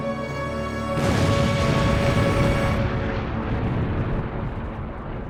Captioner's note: explosion